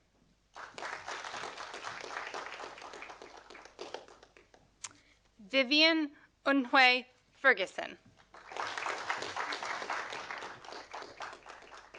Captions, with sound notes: (audience applauding) Vivien En-hui Fergusson. (audience applauding)